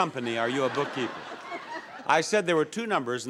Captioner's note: audience laughs